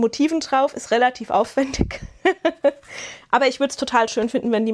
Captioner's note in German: Gelächter